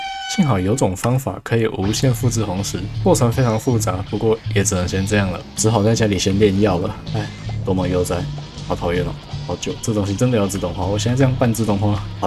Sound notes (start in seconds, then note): 7.1 sigh